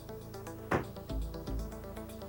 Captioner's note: closes door